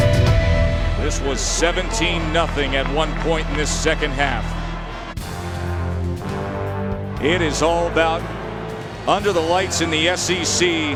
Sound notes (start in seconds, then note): 1.3 voiceover; 7.4 voiceover